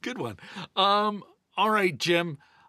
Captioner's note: laughing